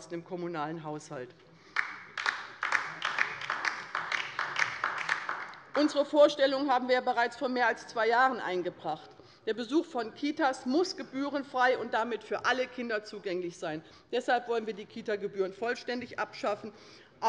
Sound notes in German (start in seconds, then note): 1.7 Beifall bei der LINKEN